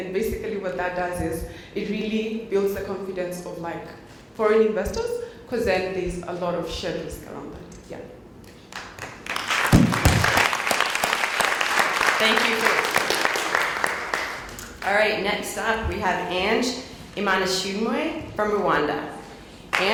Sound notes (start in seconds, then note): 11.7 applause